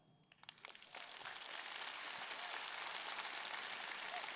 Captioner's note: audience clapping